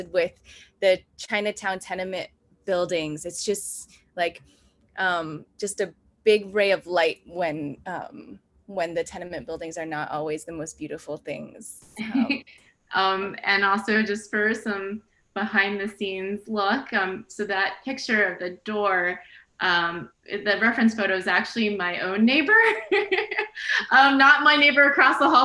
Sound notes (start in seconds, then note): 12.0 laughs; 22.6 laughs